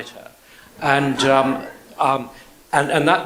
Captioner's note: audience laughs